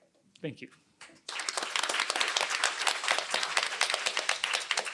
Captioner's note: applause